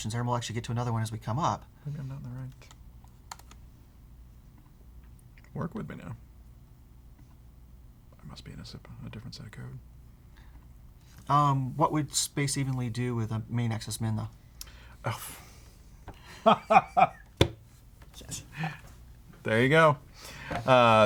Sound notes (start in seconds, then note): 16.3 laughs